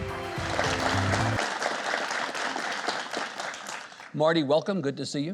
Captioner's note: audience applauds